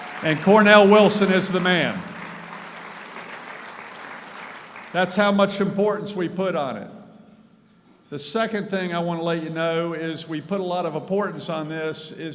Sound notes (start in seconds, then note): 4.2 applauding